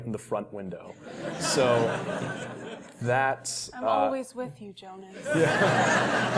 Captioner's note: laugh